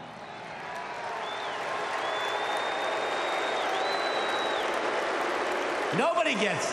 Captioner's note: applause